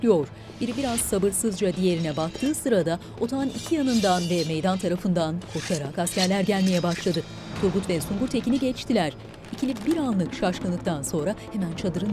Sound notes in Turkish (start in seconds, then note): 3.4 Kılıç sesleri; 9.8 Müzik - Gerilim